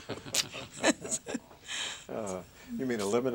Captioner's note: laughter